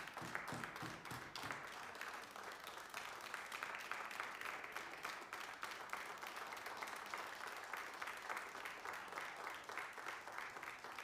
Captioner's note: applause